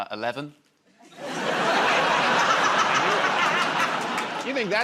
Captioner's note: laughter